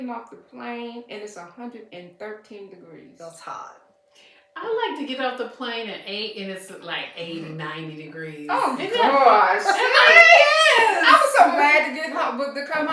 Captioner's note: laughter